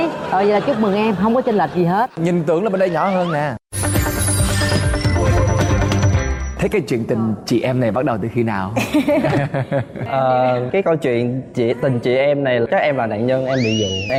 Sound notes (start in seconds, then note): 8.7 laughing